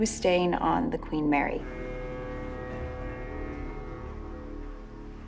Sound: ship horn bellows

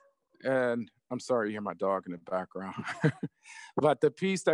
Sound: laughs

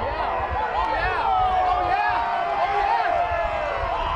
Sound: audience cheers

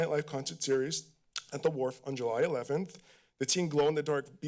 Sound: clicks tongue

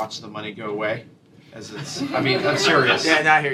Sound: laughter

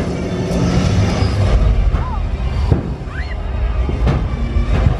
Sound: airplane engine roaring; fireworks popping

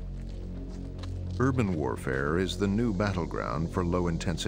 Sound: voiceover

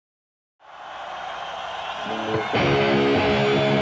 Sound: cheering

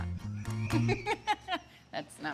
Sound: both laughing

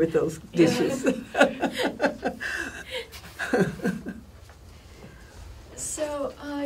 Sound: laughs; all laugh

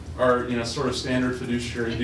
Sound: laughter

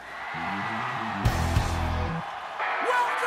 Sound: cheering

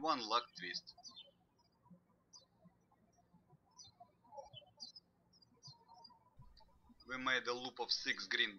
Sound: birds chirping

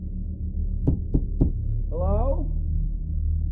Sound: knocking; muffled voice

